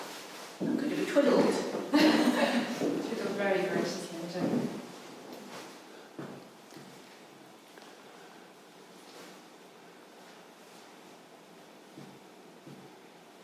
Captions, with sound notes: - I'm going to be twiddled. (laughing) - Twiddled very nicely. - (whispering) Ahh.